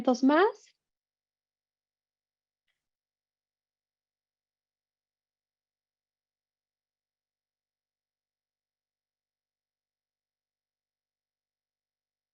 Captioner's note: silencio